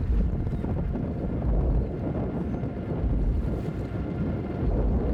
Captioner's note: loud wind gusts